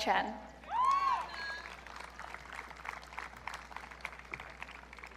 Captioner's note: audience cheering